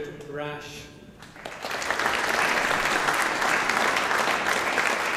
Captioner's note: audience applauding